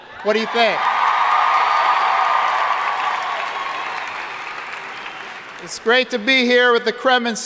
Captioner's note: audience cheering and applauding